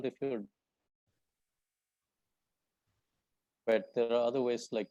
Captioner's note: audio cuts out